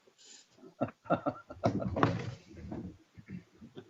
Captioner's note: chuckling